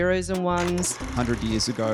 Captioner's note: old camera sound